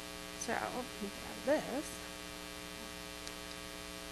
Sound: murmurs

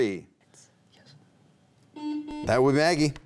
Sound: faintly speaking

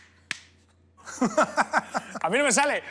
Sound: laugh

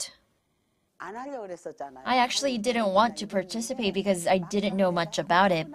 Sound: Korean

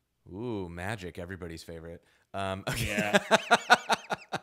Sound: laughing

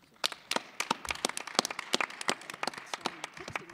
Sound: applause

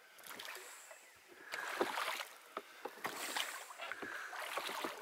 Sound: oars lapping

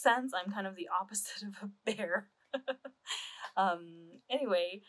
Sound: laughs

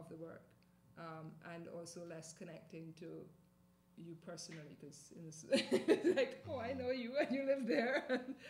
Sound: laughing

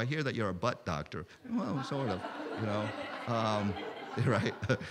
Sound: laughter

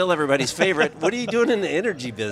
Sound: laughing

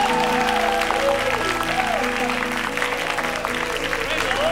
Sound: cheers and applause

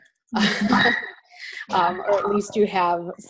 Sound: laughter

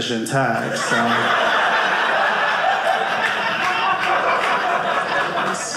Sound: audience laughing

